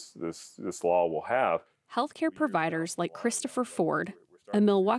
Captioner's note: voice-over